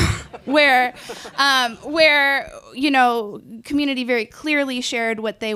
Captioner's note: laughs